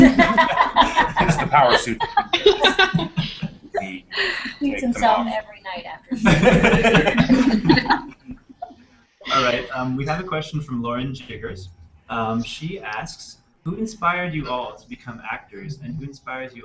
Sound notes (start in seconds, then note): 3.1 laughter